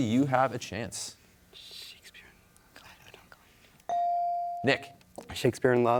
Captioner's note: team whispering